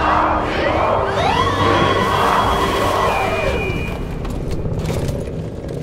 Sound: chanting; sirens blaring

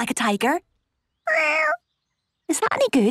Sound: small meow

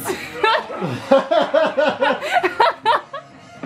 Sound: laughs

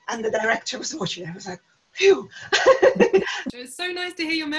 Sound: laughter

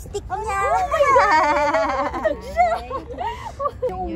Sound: laughter

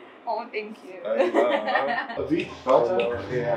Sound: laughs

